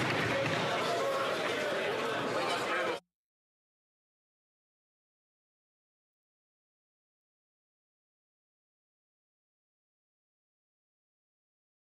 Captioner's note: some Applause